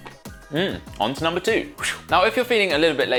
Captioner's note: makes whooshing noise